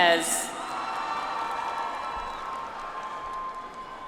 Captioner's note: audience applauds